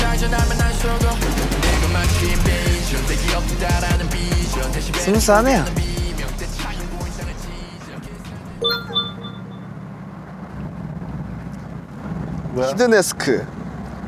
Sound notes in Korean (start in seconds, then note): 8.6 띠링